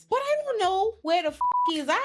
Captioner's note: beep